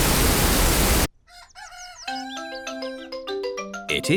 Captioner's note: cockerel crows